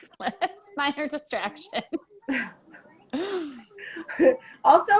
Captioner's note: laughing